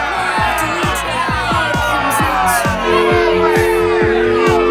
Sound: audience booing; dial tone

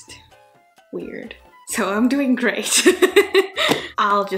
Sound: laughing

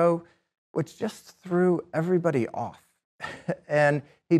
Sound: chuckles

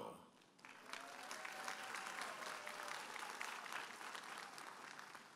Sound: audience applauding and cheering

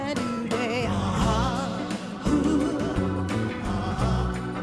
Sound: humming

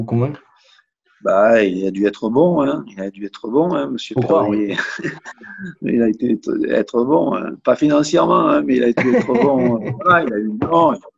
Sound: rires

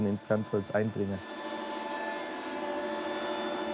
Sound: loud buzzing

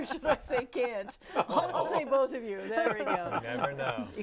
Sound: laughing

